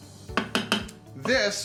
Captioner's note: banging